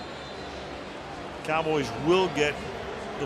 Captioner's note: whistle